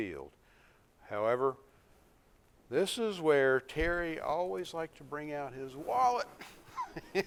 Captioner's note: laughs